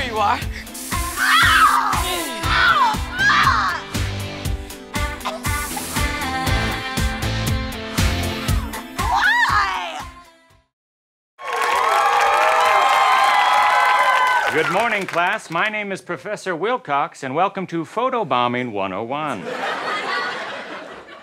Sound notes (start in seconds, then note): 1.2 screams